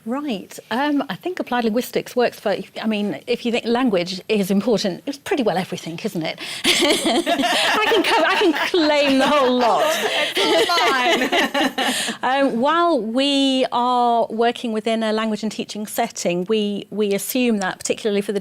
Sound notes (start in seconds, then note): 6.6 laughter